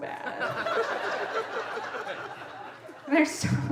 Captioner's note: audience laughing